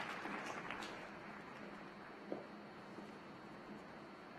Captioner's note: applause